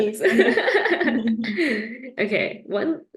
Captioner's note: laughter